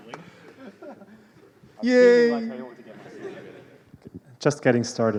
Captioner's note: laughter